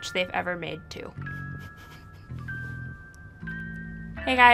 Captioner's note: chuckling